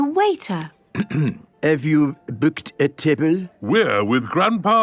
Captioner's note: clears throat